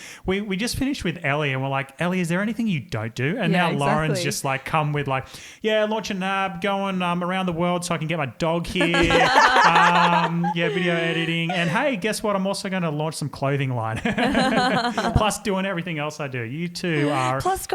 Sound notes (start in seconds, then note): 8.8 all laugh; 14.8 laughs